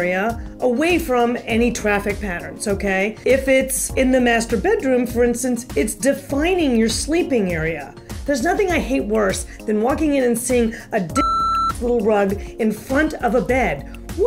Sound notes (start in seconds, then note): 11.1 beep